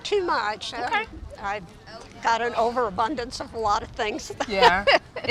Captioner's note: laughs